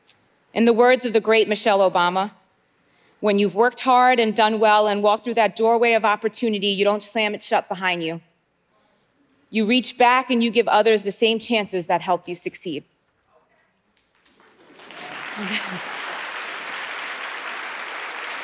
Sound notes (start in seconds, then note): 14.0 audience applauding